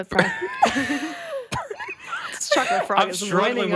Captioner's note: both laughing